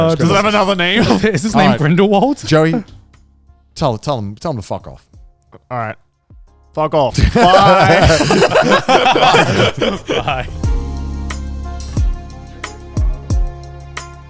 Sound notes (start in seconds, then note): 7.1 speakers laughing; 11.3 relaxing music